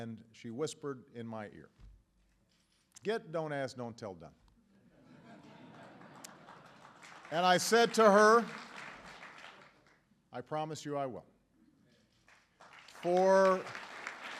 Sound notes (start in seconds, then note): 5.0 laughter and applause; 12.2 applause